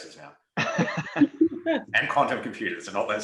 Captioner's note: presenters laughing